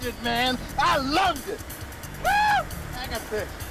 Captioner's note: cheers